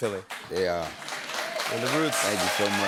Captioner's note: cheers and applause